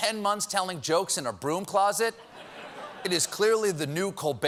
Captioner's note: laughter